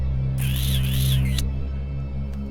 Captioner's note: lips kissing